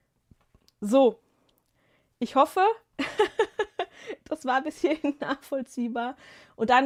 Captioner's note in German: gelächter